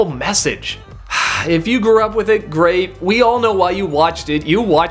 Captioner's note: sigh